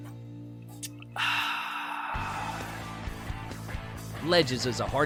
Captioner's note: sighs